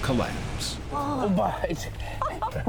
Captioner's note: they gasp